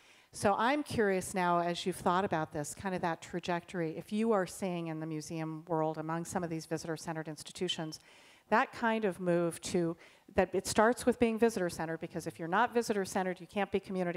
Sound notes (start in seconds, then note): none